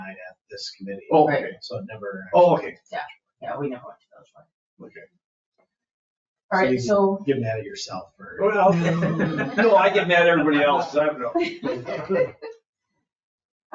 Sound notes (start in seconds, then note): 8.2 people chuckle